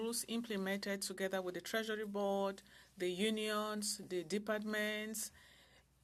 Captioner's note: speaking French